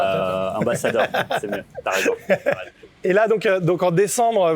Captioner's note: laughs